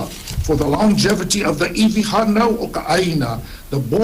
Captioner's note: speaks Hawaiian